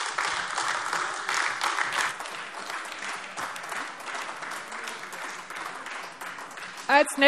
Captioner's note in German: Beifall AfD